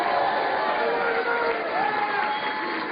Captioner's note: cheers and applause